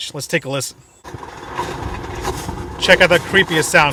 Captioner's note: car engine revs